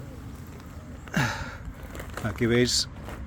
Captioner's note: sigh